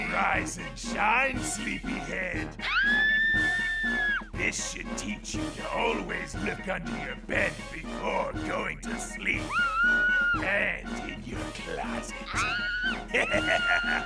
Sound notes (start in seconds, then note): 2.6 screaming; 12.2 laughter, screaming